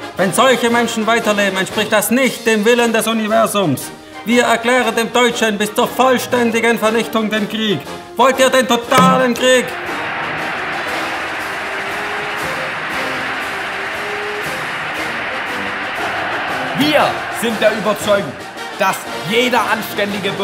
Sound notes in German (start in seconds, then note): 10.6 Nazis jubeln